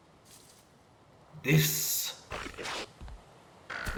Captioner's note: neck chomping noises